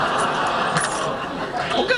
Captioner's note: laughing